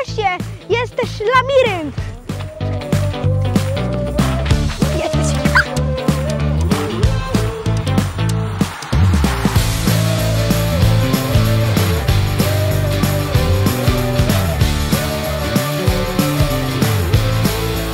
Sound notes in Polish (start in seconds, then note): 5.6 Aplauz